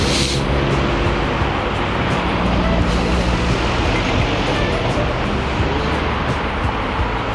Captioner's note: wind Blowing